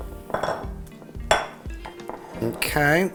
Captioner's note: bowl clanking